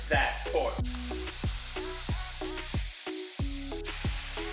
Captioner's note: searing sound conitnues